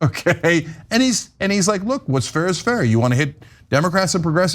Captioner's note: laugh